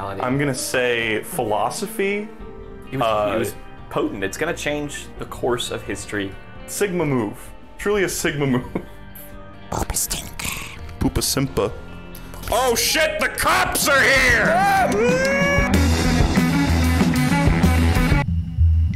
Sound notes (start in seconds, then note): 9.7 goblin-like voice, close to the mic; 18.2 same song is muffled